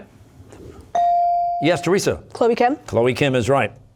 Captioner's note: none